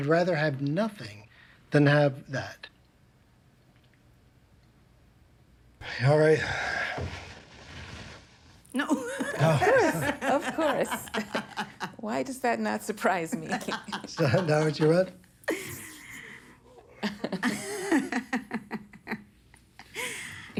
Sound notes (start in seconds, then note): 6.3 sighs; 8.8 laughs; 13.4 everybody laughs; 16.8 everybody laughs